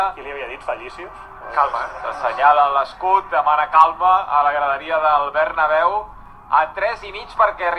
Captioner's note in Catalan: refunfuñan xdxd